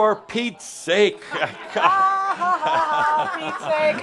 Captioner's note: laughter